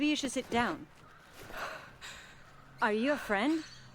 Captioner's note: breathless